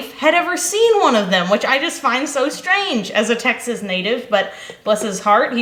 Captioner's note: none